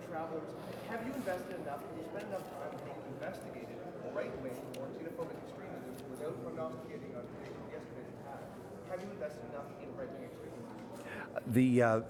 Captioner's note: shouting